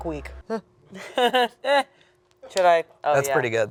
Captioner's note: chuckles